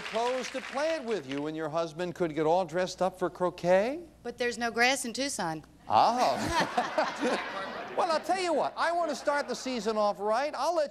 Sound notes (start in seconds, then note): 6.3 audience laughing